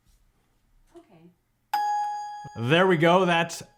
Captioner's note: sign dinging